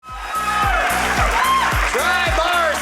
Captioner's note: audience cheering